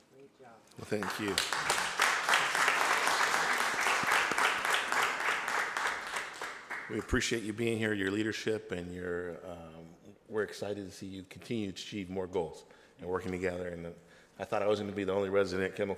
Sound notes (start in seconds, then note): 0.8 audience members applauding